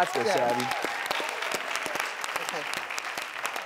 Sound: applause

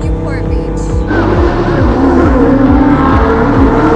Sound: engine roaring

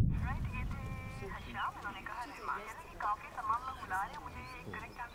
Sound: radio playing in background; birds chirping

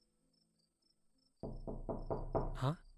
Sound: door knocking

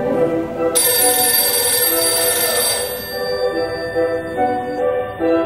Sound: phone ringing

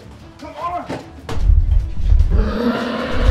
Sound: loud stomping; roar

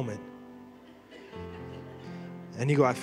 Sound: congregation laughing

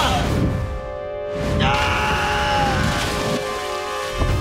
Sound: screaming; screaming

